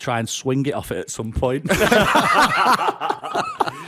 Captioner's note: laughter